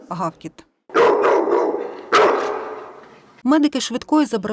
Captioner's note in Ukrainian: собаки гавкають